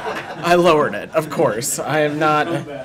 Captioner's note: laughter